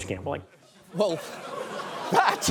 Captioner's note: audience laughs